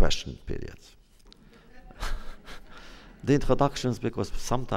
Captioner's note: laughs